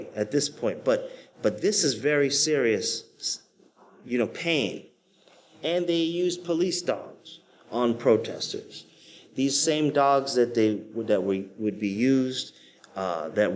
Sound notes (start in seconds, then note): none